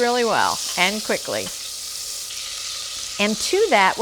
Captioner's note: pan sizzling